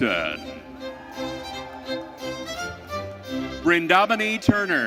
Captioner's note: audience cheering